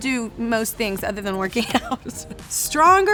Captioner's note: chuckling